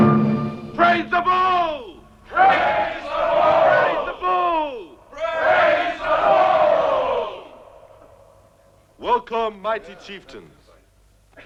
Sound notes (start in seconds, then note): none